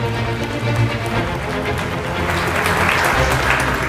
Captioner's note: upbeat music; audience clapping